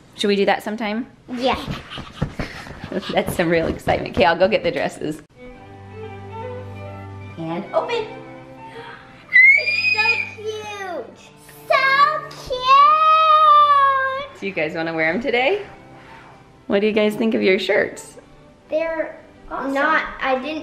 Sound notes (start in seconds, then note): 5.3 classical music; 8.6 shrieks